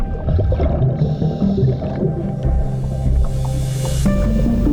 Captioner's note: underwater sounds; dramatic music